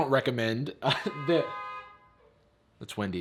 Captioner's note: car blows horn